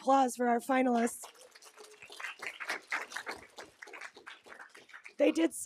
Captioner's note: audience clapping